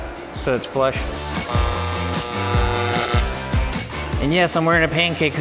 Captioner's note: upbeat music; sparks buzzing